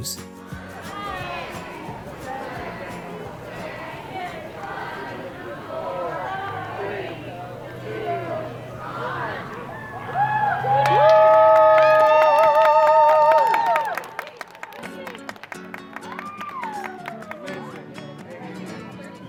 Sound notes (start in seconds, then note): 4.3 crowd; 12.8 crowd cheering